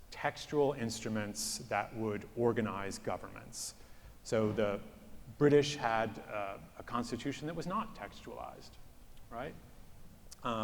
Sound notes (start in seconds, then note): none